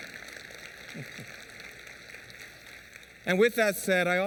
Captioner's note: applause